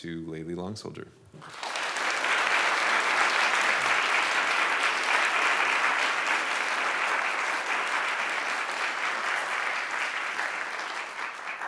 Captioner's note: applause